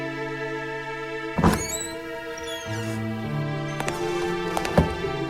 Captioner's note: tense music; door squeaking open; footsteps